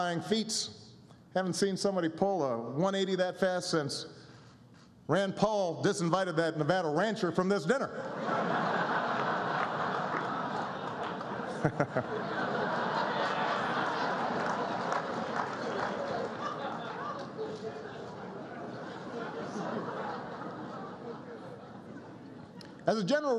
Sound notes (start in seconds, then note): 7.8 laughter